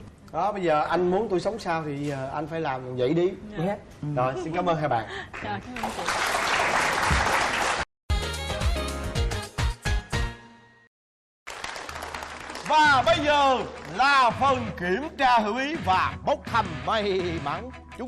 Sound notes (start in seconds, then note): 5.7 applause; 11.4 applause